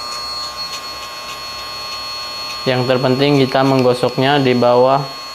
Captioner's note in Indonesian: lonceng